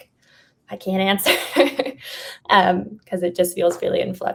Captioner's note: laughs